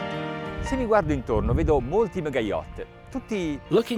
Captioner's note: speaking Italian